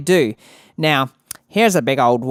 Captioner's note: lipsmack